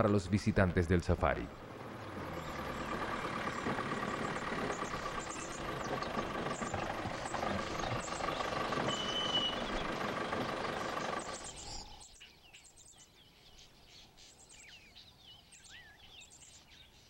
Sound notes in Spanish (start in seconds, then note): 2.8 sonido automotor; 12.8 sonidos selváticos